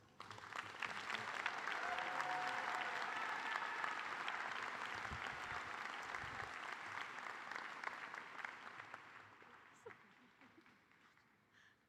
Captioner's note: cheers and applause